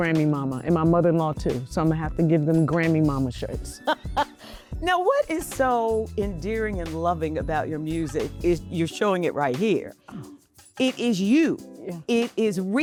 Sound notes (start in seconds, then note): 3.8 laughing